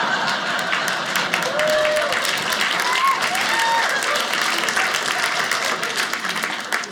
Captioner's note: audience laughing; audience applauding